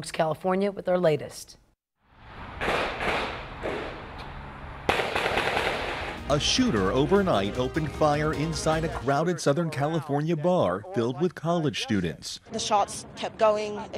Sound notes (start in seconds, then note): 1.7 nat - gun shots